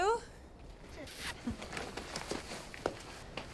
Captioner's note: zipping